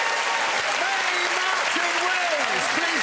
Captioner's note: cheering and applause